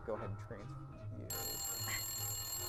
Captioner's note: phone rings